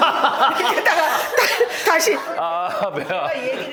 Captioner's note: sobbing